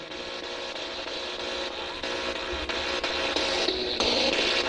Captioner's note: static buzzing